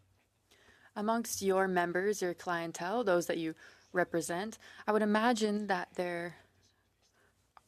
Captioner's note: speaking French